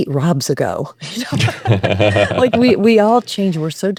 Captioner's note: both laughing